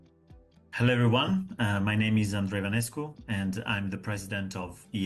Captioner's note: speaking in Italian